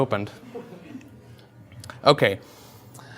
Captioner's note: audience chuckles